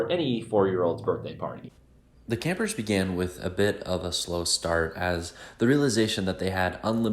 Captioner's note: voice-over